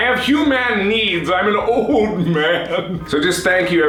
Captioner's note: sobbing